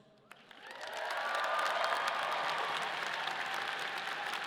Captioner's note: audience applauding